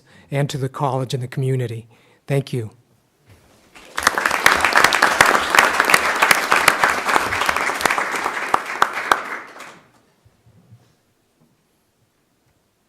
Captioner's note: clapping